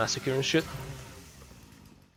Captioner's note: chainsaw off